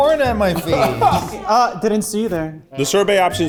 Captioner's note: laughs